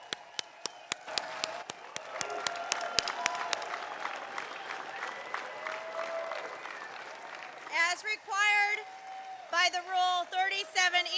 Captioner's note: applause